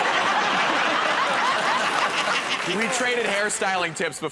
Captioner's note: laughter